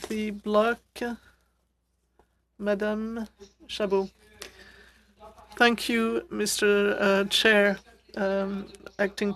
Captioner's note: speaking French